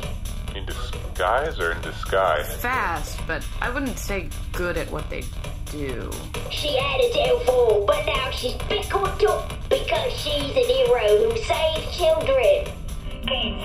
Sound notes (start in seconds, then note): 5.6 terrible British accent